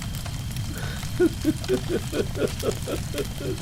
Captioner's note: crying